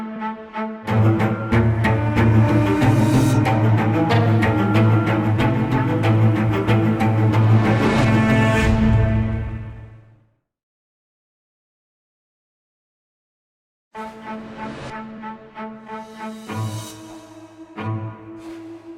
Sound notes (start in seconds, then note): 0.9 siren wailing